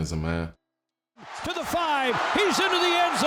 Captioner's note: group cheering